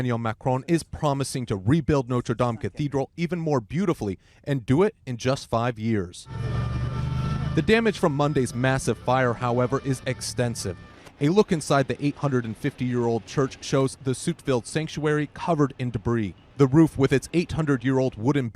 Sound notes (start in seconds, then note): 6.8 sound of flames